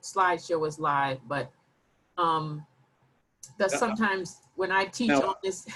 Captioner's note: laughs